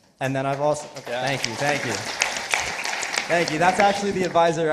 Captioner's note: participants applauding